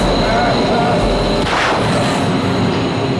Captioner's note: whirring continues; gun fires